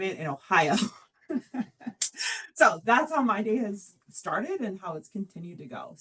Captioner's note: laughs